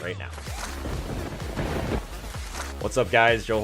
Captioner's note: thunder rumbling